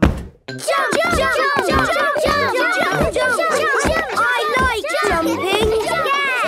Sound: all shouting "Jump! Jump!"

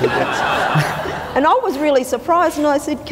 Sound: audience laughter

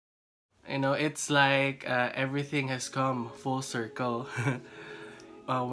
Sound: laughs

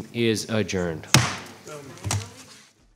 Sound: gavel thumping

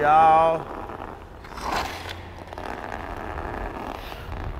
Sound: skates grinding

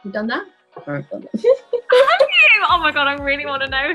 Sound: laughs

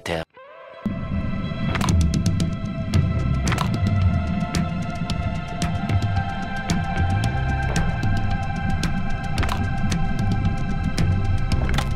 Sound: claps

